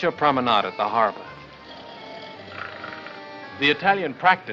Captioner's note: snoring